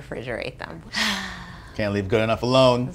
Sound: big sigh

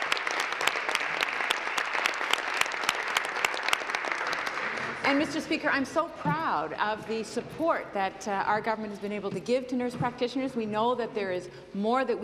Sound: applause

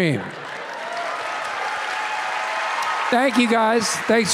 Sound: audience cheering and clapping

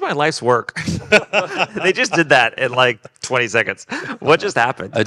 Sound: group laughing

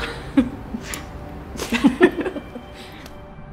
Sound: laughs

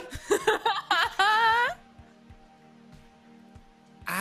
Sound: laughing

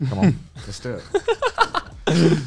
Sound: laughs

